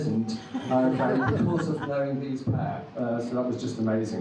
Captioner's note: audience laughs